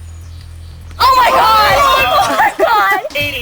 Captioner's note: all cheering